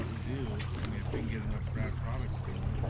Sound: rod whipping; reel spinning; background chatter

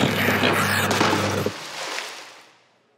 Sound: water splashing

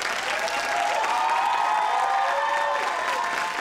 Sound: crowd cheers

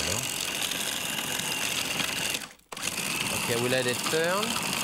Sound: food processor whirring

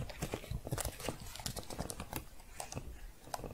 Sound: typing continues

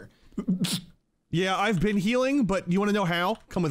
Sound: laughs

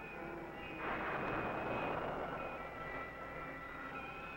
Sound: explosion booming

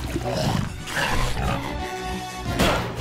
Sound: sniffing

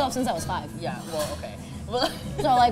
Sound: giggles

